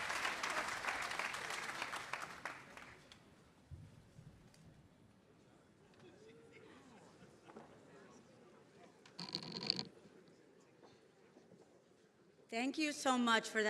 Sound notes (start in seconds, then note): 5.7 attendees chattering